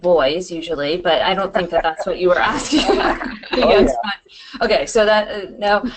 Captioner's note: laughter